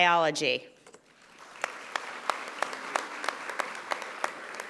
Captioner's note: audience applauding